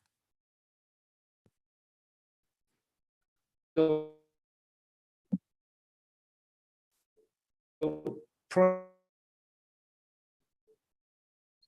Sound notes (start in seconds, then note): 0.2 audio cuts out; 4.4 audio distorts